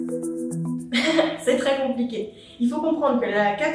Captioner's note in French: rires